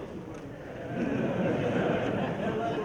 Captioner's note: laughter